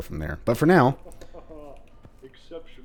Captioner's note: laughs